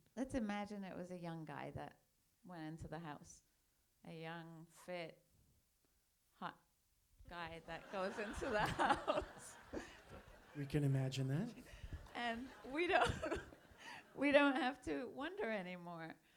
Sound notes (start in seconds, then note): 7.6 audience laughs